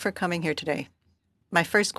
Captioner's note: speaking French